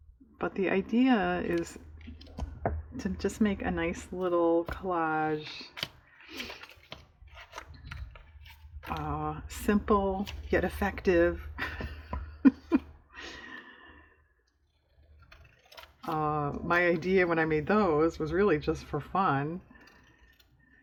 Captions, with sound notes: but the idea is to just make a nice little collage simple yet effective (laughs) my idea when i made those was really just for fun